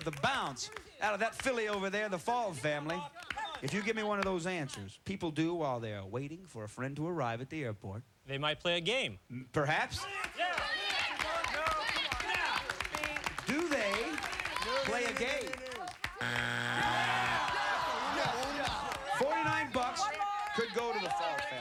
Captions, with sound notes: OF THE BOUNCE OUT OF THAT PHILLY OVER THERE-- THE FAUL FAMILY-- IF YOU GIVE ME ONE OF THOSE ANSWERS. PEOPLE DO WHILE THEY ARE WAITING FOR A FRIEND TO ARRIVE AT THE AIRPORT. THEY MIGHT PLAY A GAME. PERHAPS... [cheers] DO THEY... PLAY A GAME? 49 BUCKS COULD GO TO THE FAUL FAMILY, RICK.